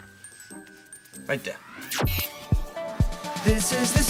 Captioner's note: upbeat music; whooshing; upbeat music